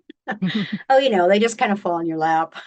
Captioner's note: laughing